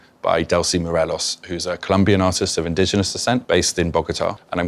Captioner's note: none